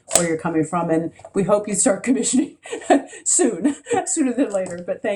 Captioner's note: laughs